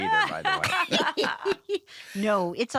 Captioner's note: laughter